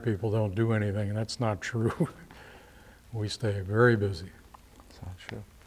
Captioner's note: laughter; chuckles